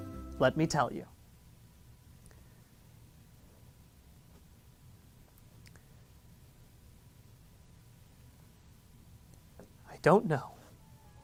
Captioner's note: uncomfortable silence